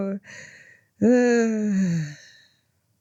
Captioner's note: sigh